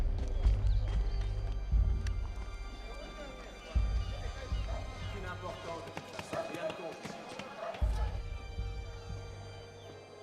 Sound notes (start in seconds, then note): 5.0 man speaking in foreign language